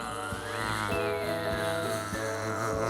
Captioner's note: bee buzzing